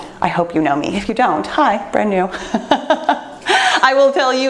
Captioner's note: laughs